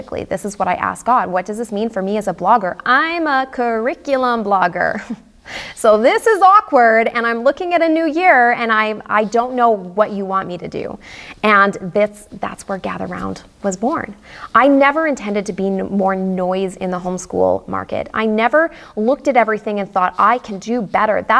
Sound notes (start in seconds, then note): 4.9 chuckles